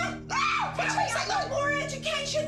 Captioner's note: screams